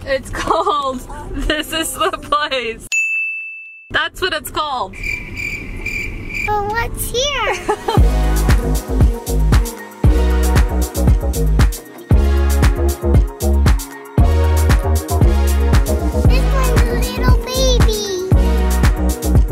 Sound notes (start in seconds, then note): 4.9 crickets chirping; 7.4 laughing; 8.8 rhythmic rock music